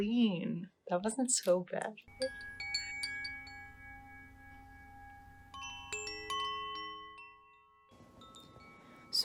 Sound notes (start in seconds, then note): 2.1 windchimes